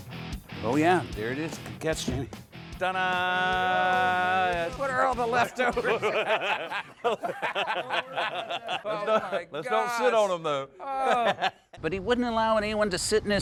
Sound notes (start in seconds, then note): 5.3 laughter